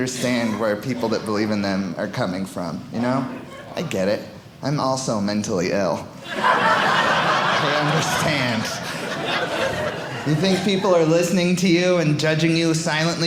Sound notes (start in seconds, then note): 6.2 audience laughing